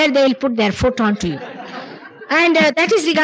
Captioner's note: laughter